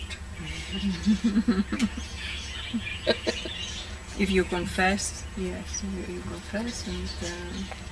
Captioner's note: laughter